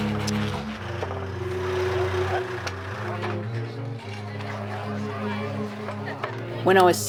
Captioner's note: crowd chatter